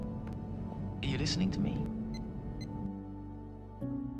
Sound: quietly

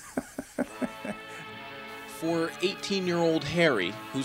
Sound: laughs

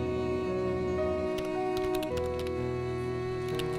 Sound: keyboard clicks

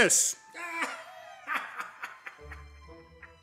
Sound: mocking laughter

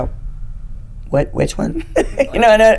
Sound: laughing

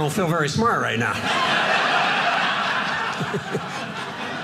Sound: audience laughing

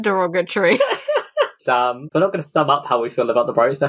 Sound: laughs

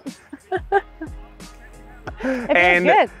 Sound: she laughs

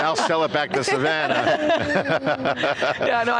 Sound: everyone laughing

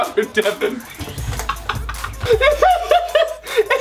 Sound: laughing

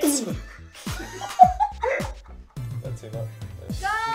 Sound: laughs

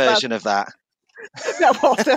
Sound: laughs

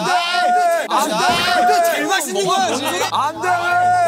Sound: everyone yells

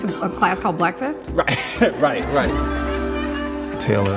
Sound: chuckles

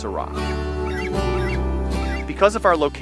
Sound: bird screeches

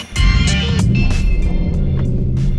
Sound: car engine

